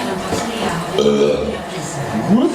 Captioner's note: swedish burp